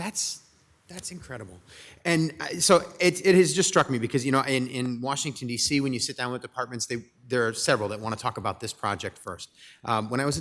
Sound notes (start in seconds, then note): none